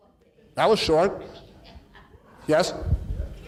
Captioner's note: audience laughs